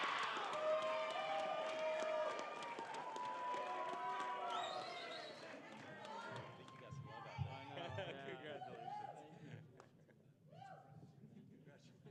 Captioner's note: cheering